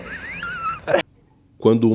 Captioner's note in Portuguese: risos